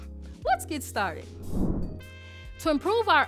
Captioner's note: air whooshes